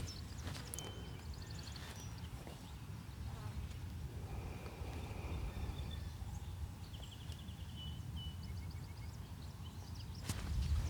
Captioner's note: birds chirping